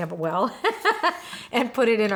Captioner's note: laughing